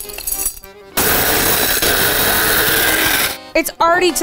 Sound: machine whirring

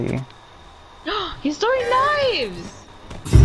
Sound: gasp

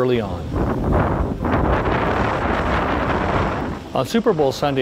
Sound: wind whooshing

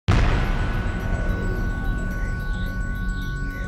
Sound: whooshing sound

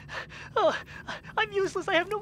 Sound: whining breathlessness

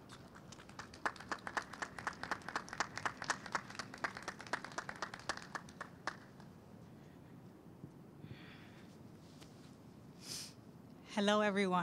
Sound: clapping

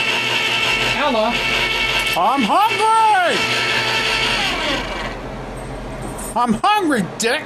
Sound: can opener stops

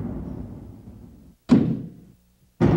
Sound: thump

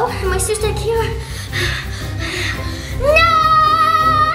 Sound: heavy breathing

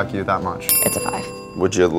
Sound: dinging

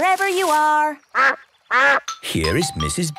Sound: quacks

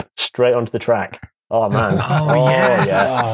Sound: laughs

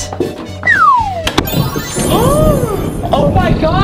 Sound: magical sounds

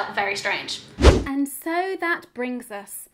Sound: swooshing

